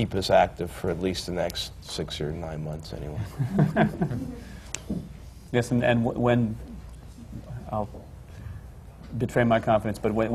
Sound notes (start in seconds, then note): 3.2 laughter